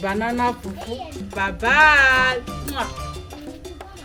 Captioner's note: kisses